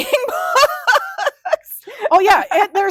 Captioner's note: laughing